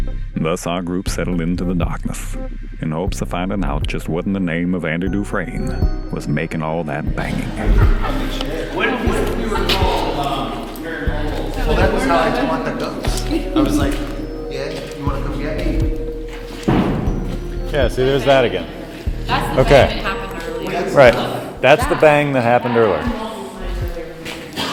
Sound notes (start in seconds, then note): 7.4 laughter; 16.7 bang